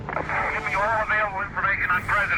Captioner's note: radio static crackles